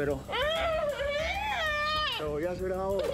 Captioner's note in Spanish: gritos